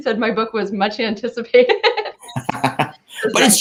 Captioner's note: laughing